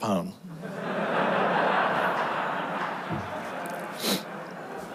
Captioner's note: audience laughs